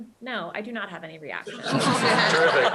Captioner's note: laughter